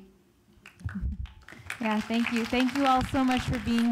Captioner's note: audience applauding